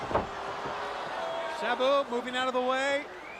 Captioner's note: crowd chatter